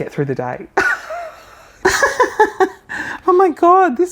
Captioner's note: chuckling